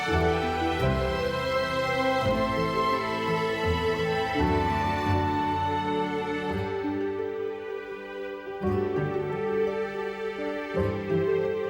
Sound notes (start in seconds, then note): none